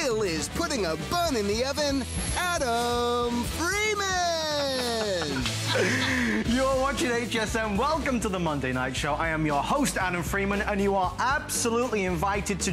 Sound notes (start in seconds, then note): 4.5 laughter